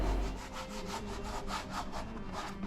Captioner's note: sandpaper scratching